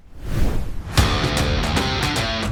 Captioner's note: air whooshes; hard rock music